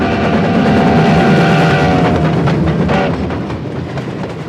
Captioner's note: train horn tooting; train rumbling